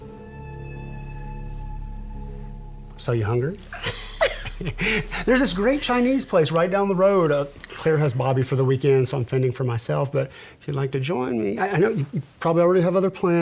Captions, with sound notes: (dramatic music) So you hungry? (both laughing) There's this great Chinese place right down the road. Claire has Bobby for the weekend, so I'm fending for myself. But if you'd like to join me. I know you, you probably already have other plans,